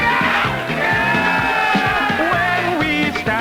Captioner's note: crowd